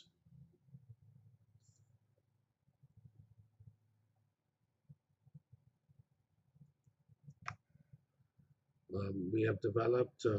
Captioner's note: pause